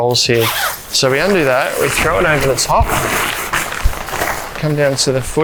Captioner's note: canvas rustling; zipper whooshing